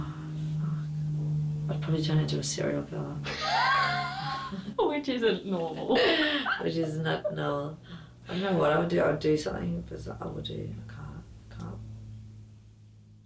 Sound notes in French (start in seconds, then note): 5.8 riant tous les deux